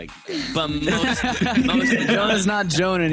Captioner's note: laughter